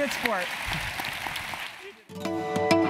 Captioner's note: applause